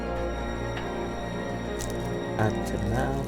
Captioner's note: sweet wrapper rustles